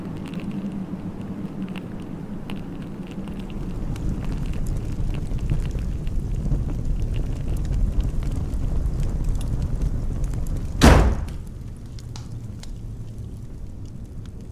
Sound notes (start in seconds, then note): 3.8 wood-burning fire; 10.8 door closes